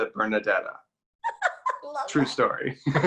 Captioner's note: laughs